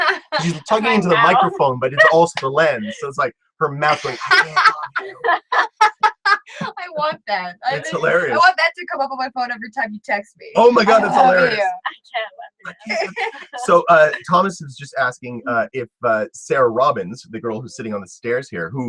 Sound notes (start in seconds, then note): 3.6 laugh